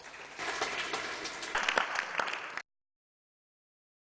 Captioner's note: applause